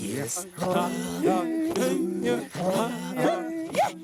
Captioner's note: all chanting in native language